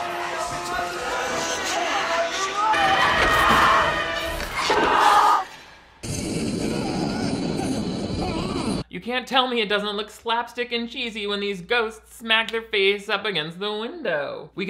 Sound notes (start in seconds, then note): 4.4 ghost yelling; 6.0 ghost roaring; 6.0 man yelling